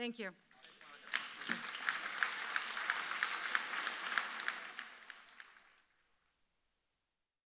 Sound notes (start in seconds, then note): 0.5 audience applauds